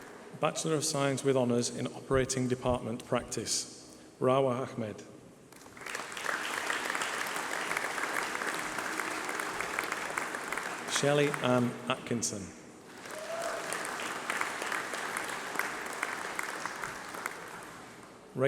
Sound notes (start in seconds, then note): 5.5 applause